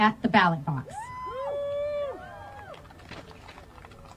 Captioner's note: crowd cheers